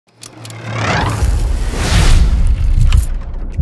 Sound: logo whooshes

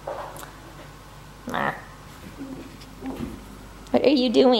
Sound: grunts

